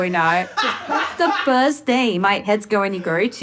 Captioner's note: laughing